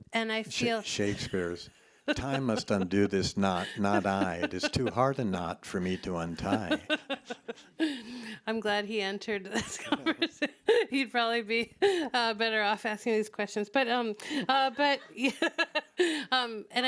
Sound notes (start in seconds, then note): 5.7 laughing; 10.5 laughs; 14.5 laughs